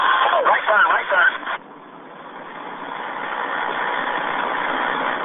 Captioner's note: helicopter engine roars